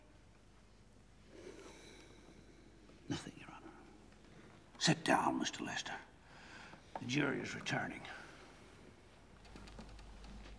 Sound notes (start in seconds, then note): none